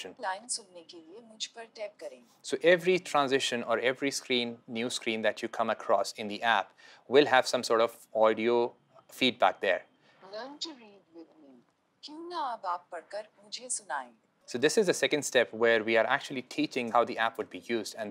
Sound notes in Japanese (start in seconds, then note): 0.2 ヒンディー語; 12.0 ヒンディー語